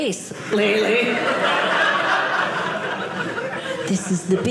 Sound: audience laughing

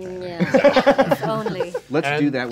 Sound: laughing

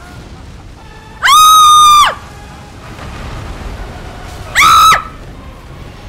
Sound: scream, yelp

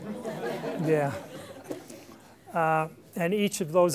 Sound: laughter

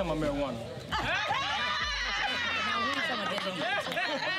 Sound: laughter

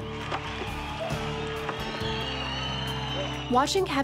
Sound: cheering

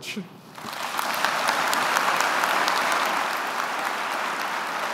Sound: audience applauding

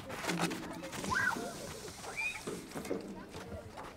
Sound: children yell and play at recess

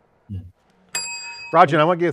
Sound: bell dings

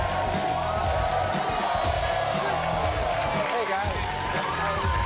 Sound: audience cheering

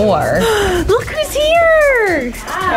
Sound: gasps

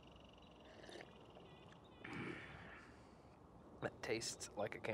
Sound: person slurping

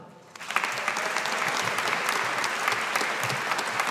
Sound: audience applauding

